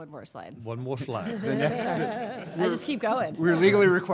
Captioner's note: laughing